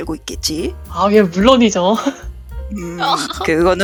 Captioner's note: laugh